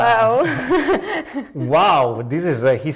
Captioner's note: laughs